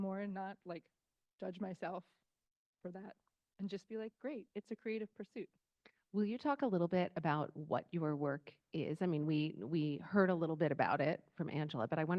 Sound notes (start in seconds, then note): none